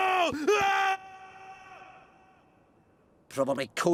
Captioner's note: distant screaming